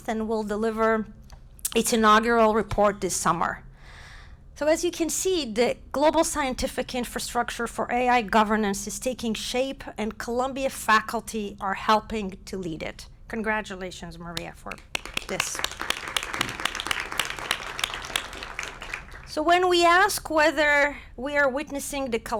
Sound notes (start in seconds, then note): 14.7 applause